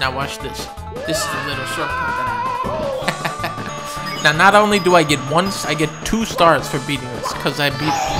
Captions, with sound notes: Now watch this. This is a little shortcut that I know. [ laughs ] Now, not only do I get one, I get two stars for beating this. 'Cause I beat -